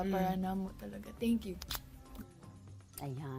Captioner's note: smooches